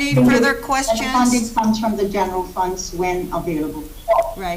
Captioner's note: echo